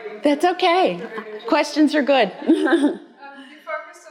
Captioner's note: laughing